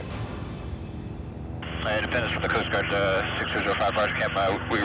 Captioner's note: helicopter whirs